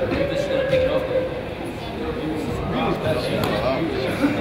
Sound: crowd chatters

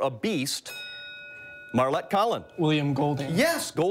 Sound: bell rings

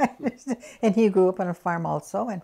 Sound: laughs

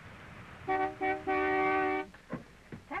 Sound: honking

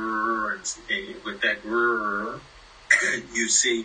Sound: buzzing sound; buzzing sound

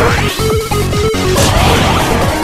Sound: blast

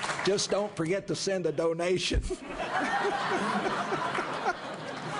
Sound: laughter and applause

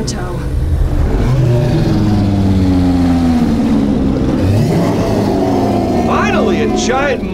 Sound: roars

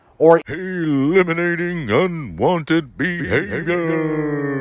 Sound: dramatic voiceover

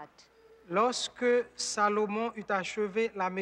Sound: man speaking french

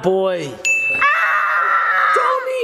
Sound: bell chimes

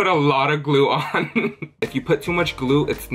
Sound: laughs

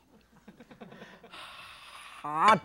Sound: audience laughs

